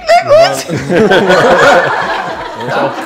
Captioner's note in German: Gelächter